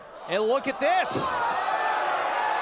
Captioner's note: cheers & applause